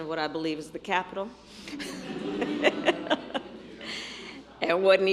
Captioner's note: laughter